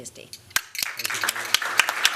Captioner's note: applause